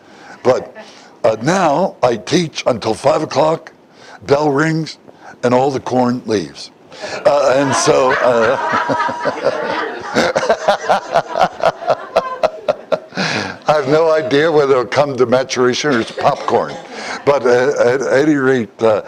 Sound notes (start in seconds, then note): 7.2 Смех